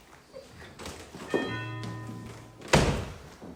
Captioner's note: door bell rings